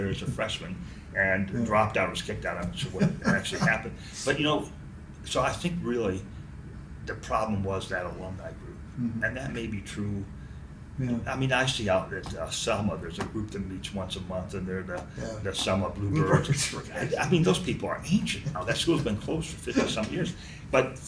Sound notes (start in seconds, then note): 4.6 still laughing; 16.1 laughs